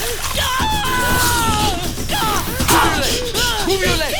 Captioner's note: screaming; crunching